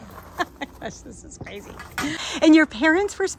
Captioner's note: laughs